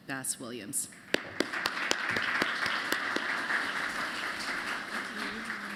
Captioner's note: applause